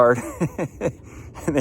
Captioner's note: laughs